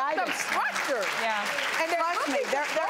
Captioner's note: audience applauding